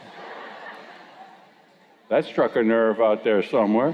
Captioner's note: laughter